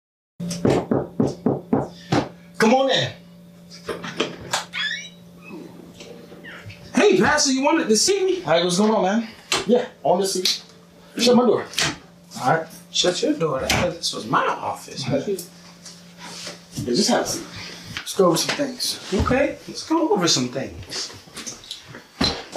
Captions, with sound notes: (Knock on the door) Come on in. hey pastor, you wanted to see me? Hey, what's going on, man. Yeah, I wanted to see you. Shut my door! Shut you're door? I thought this was my office Yeah just have a seat. Lets go over some things. Okay. Let's go over some things.